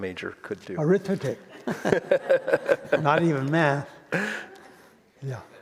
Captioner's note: all laugh